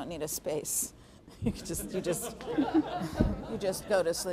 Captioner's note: audience laughing